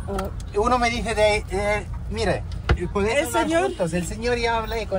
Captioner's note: in Spanish